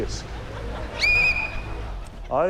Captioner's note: whistle blows